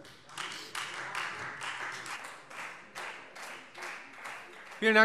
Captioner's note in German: Beifall Freie Demokraten